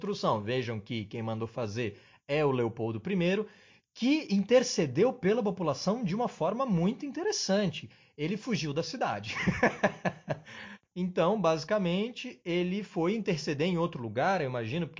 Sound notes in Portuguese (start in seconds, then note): 12.4 risos